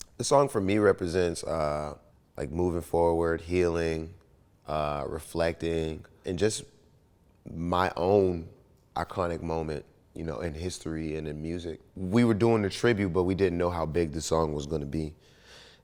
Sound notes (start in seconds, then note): none